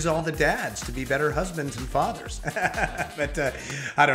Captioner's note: chuckles